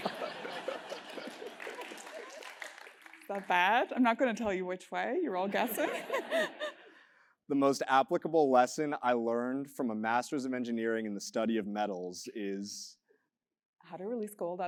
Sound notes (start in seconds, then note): 0.0 laugh; 0.4 applause; 5.6 laugh